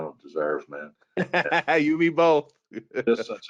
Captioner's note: laughs